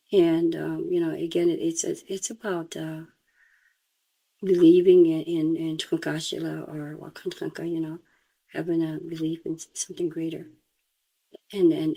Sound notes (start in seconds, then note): 6.2 speaks in Lakota